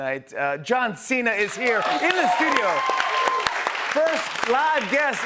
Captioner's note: cheers and applause